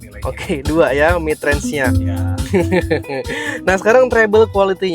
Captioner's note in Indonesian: tertawa